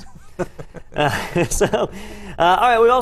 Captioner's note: laugh